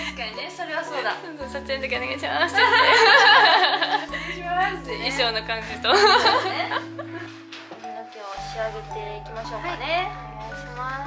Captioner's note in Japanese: 笑い